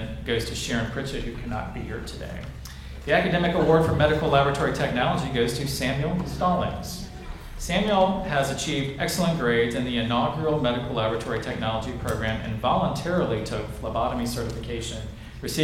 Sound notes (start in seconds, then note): none